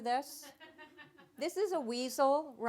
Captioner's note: audience laughing